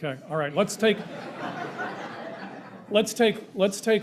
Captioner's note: crowd laughing